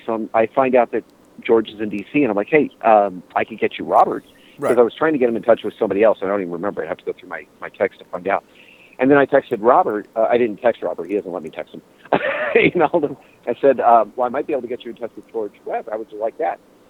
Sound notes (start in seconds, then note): 12.1 laughter